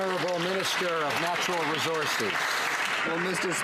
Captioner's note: some Applause